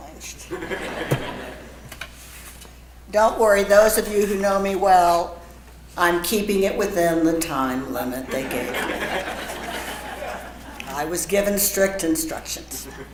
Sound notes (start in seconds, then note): 0.0 laugh; 8.3 laugh